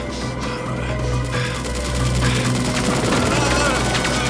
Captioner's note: machine gun fire